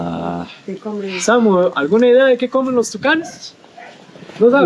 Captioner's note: in Spanish